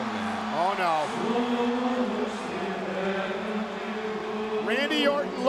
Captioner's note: group chanting